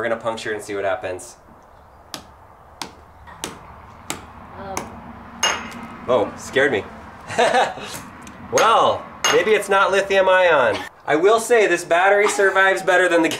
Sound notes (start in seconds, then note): 7.2 laughs